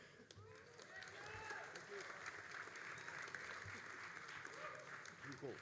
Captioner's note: all applauding and cheering